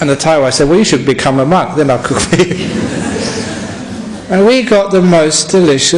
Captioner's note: laughter